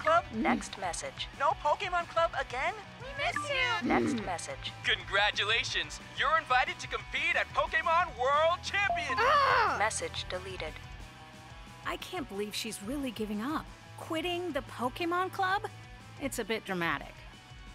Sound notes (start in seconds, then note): 0.3 AI voice; 3.9 AI voice; 9.2 grunts; 9.9 AI voice